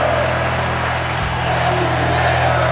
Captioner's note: audience clapping